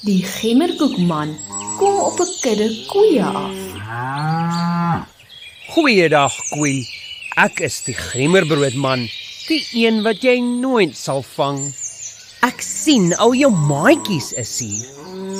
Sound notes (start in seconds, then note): 4.2 cow mooing